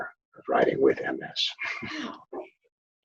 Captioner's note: chuckles